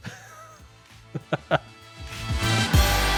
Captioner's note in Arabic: موسيقى الروك; يضحك